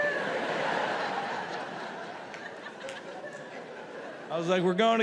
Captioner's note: audience laughs